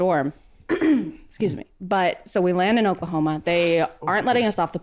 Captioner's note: clears throat